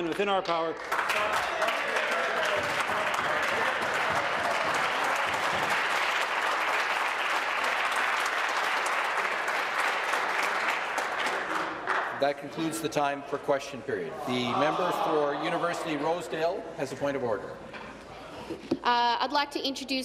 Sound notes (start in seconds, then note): 4.4 applause